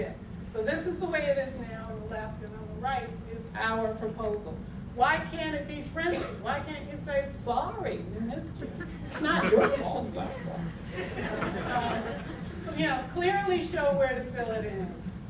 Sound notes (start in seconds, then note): 10.8 audience laughter